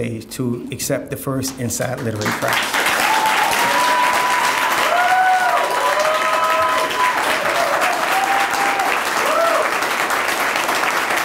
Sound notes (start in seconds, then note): 2.1 audience cheering and applauding